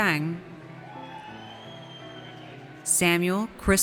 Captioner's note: audience cheers